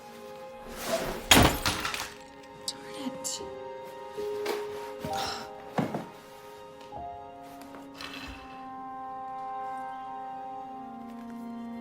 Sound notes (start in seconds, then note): 0.8 glass shutters; 5.1 Jackie gasps; 8.9 soft music